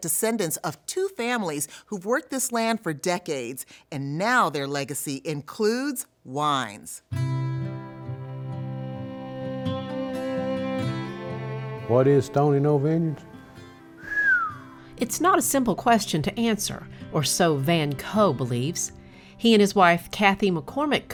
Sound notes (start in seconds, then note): 6.9 soft music; 14.0 speaker whistling